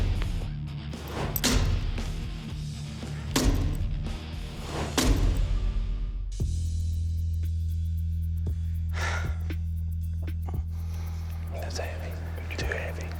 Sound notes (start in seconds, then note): 8.9 sighs